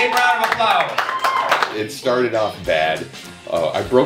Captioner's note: applause